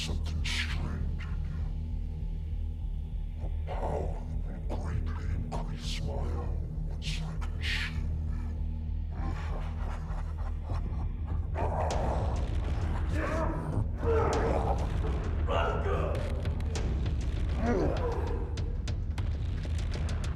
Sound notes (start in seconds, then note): 9.2 demon laughing; 11.3 demon groaning in pain; 14.5 both grunting; 17.6 both grunting